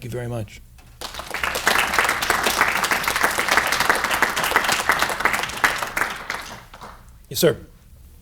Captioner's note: applause